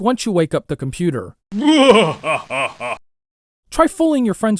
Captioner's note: evil laugh